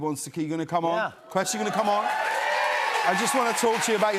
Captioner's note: cheers and applause